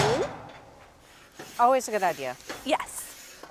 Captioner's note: scraper whooshing